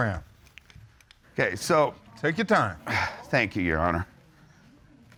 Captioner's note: sighs